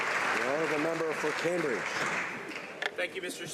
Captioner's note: applause